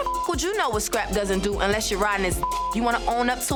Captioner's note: beep; beep